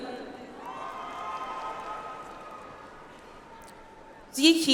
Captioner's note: audience applauds